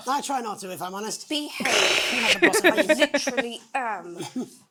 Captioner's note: chuckles